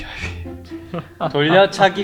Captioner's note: laughter